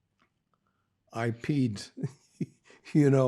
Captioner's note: laughing